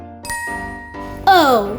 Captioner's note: magical ting